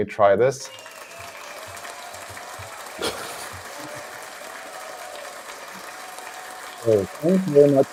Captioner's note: applause, cheering